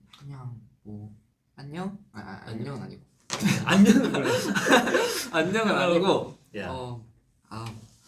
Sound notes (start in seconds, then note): 3.4 laughs